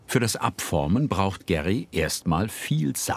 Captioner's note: none